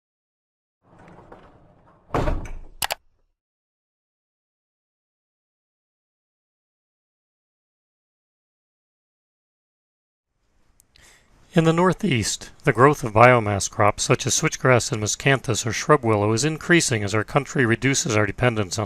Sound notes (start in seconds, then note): 2.8 mouse clicking